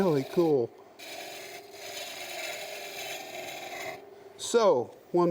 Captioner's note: wood scrapes